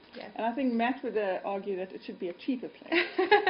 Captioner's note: laughter